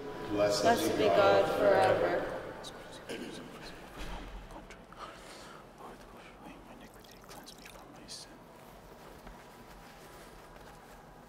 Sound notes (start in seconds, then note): 2.7 whispering